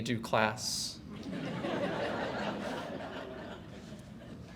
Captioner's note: audience laughs